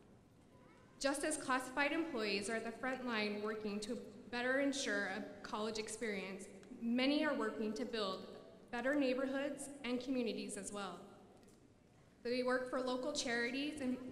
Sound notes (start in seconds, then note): none